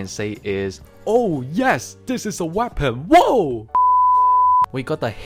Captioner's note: beep